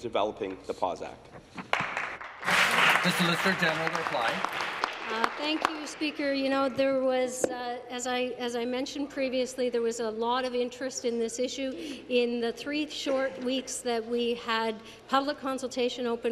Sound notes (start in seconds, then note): 7.5 applause